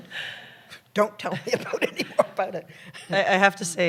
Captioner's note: laughs